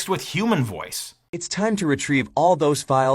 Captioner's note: AI Voice